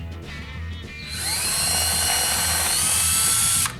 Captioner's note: drilling